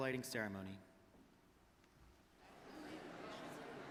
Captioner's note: audience talking